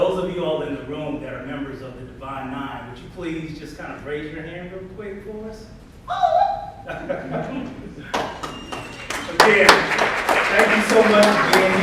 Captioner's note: audience applauds